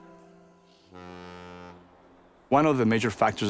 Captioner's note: boat horn honking